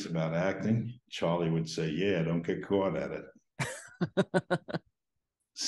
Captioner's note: laughs